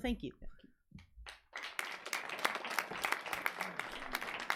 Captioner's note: audience applauds